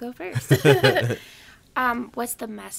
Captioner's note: laughing